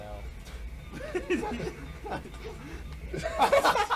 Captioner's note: chuckle